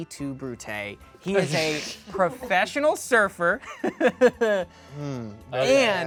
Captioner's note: laughs